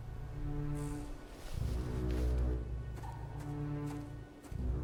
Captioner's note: footsteps